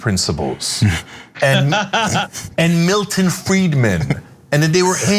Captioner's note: laugh